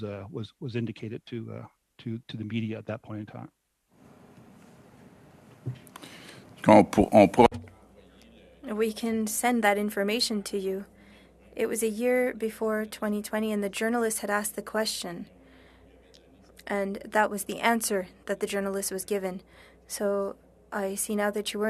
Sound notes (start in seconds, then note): 11.6 speaking French